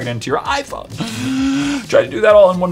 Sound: deep breath

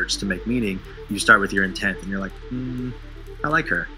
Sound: hums

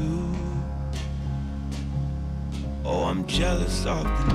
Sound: footsteps ascending

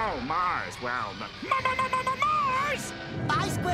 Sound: stammering

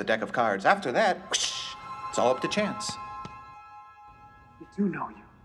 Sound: whishing sound; taps cards

